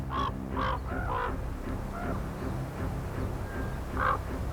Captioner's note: raven squawking